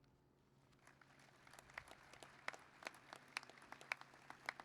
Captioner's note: applause